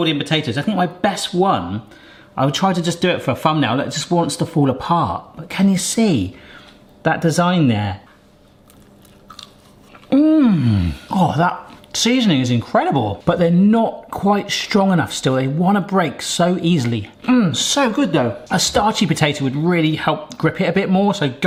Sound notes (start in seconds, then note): 10.0 person sighing